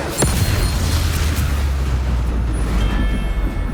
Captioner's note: robust sound effect; subdued music